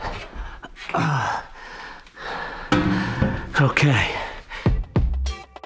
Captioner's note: panting